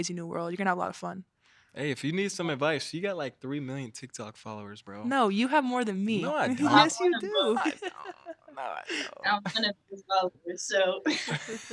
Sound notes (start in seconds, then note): 6.5 chuckling